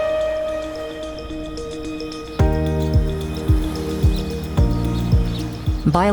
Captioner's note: birds chirping